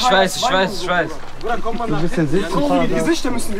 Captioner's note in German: Stimmengewirr